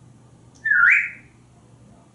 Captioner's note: whistling